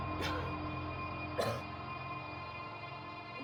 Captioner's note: coughing